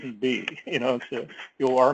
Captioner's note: laugh